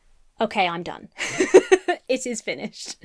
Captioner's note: laughs